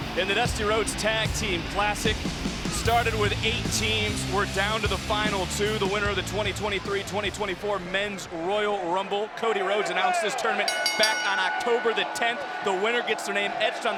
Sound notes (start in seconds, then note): 10.6 bell dinging